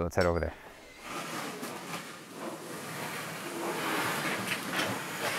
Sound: metal scraps wall

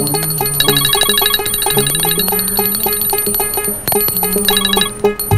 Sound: chanting hymns; phone ringing

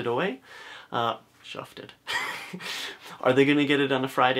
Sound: laugh

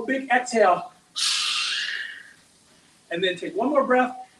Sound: hisses out air

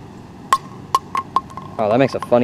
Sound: plastic hitting ground

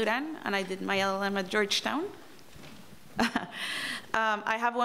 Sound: chuckles

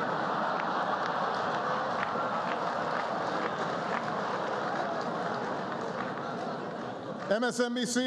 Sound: laughter and applause

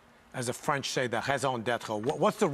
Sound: in foreign language

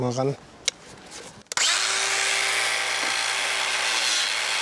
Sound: loud whirring

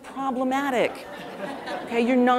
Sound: audience laughing

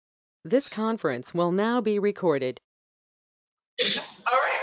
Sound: automated voice

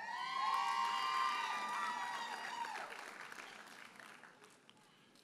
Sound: audience hollers and applauds

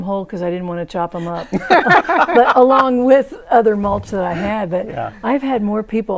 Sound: laughing

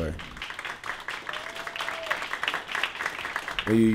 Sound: applause

